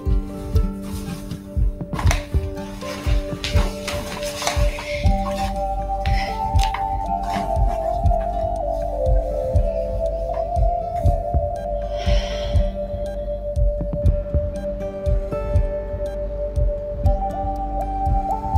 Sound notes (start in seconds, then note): 11.8 she sighs